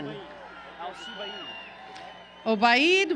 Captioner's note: applause